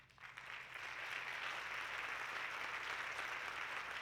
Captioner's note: audience clapping